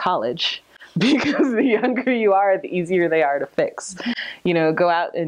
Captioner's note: laughing